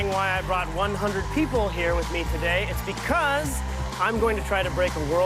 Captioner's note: applause; cheers and applause